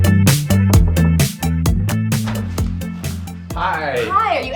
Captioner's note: knuckles rapping